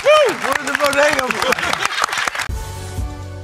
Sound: applause

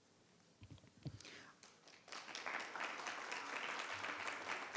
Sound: applause

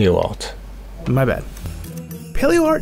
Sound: voiceover

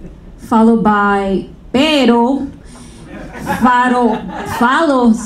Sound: speaking foreign language

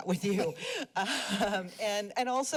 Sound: chuckles

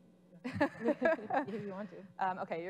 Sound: laughing

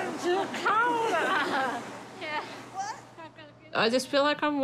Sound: both laugh

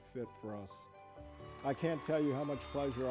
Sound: audience cheering

